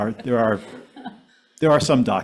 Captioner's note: speaker chuckling